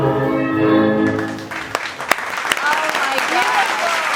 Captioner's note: clapclapclapclapclap